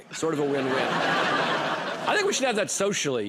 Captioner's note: laughter